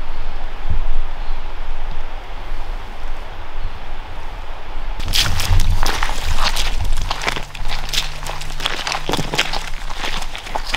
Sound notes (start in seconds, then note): 5.0 water sloshes